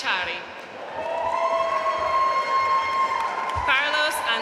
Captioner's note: audience cheering and applauding